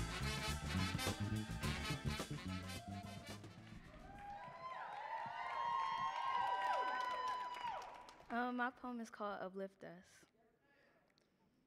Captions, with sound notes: (audience cheering and applauding) - My poem is called "Uplift Us."